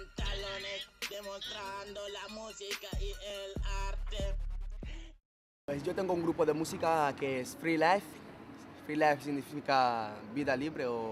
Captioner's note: in Spanish